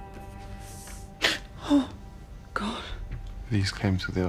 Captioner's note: gasps